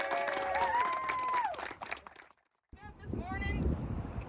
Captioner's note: clapping